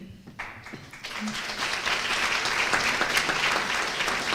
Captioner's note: applause